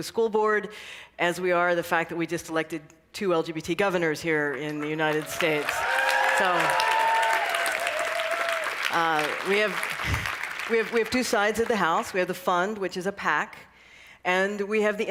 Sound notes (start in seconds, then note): 7.8 cheering and applause